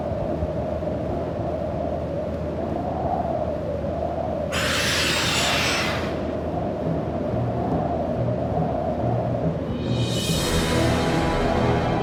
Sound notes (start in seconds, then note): 4.5 beast shrieks; 6.9 dramatic orchestral music